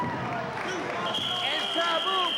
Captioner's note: whistling